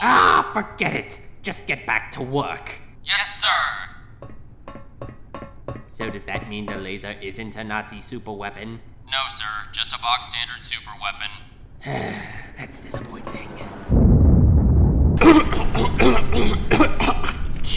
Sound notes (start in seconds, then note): 11.8 sigh; 13.9 offscreen helicopter crash; 15.2 coughing